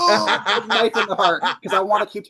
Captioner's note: laughs